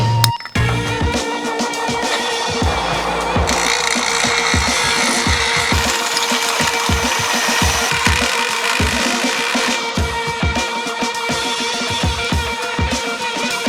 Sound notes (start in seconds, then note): 2.2 whirring; 3.6 buzzing; 10.6 energetic music